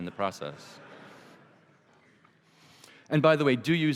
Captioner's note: laughter